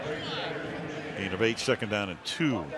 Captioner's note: pa announcement